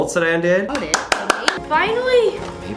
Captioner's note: clapping